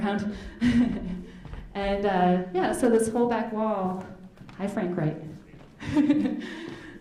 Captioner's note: chuckles